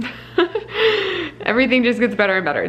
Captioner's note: laughs